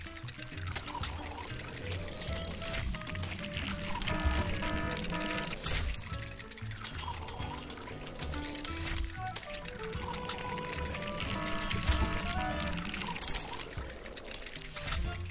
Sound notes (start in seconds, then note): 0.9 glass shatters; 3.4 alarm blares; 10.0 alarm blares; 10.1 glass shatters